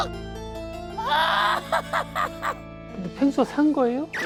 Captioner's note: wailing